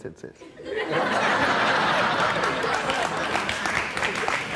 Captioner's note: audience laughing